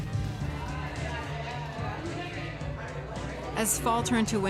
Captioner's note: people chattering; upbeat indie rock music